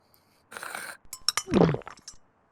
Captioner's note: swallow; slurp